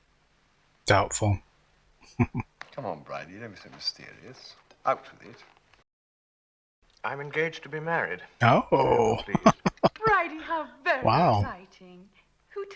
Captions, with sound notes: Doubtful. [Chuckling] Oh. [Laughing] Wow.